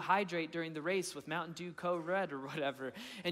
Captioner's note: chuckling